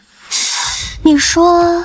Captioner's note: sigh